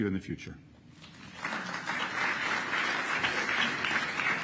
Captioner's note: applause